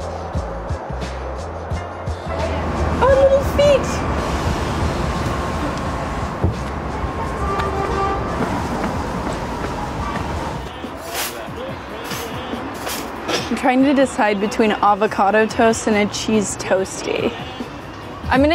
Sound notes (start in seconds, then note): 0.0 soft pop music; 6.4 shoes stomping on pavement